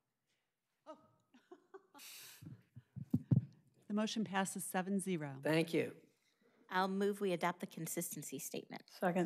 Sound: laughter

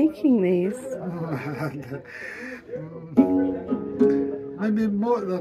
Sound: laughing

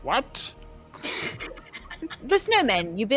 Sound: players laughing

